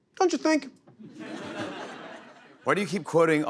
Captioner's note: laughter